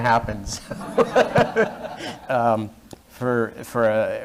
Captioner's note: laughter